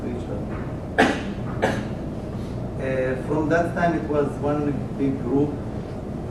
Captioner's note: cough